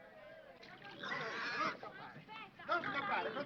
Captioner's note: pig squeals; speaking foreign language